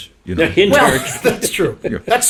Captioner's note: chuckles